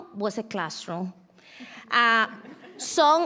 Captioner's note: audience laughs